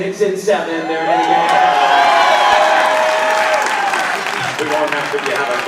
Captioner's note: audience applauding